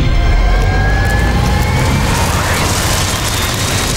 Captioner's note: apprehensive music; loud fan